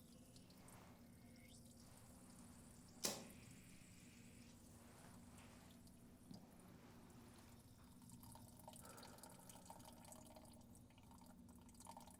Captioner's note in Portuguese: urina caindo no vaso sanitário